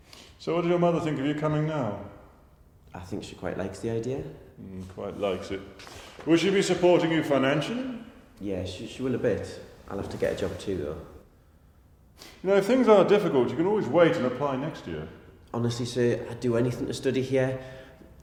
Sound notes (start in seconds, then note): none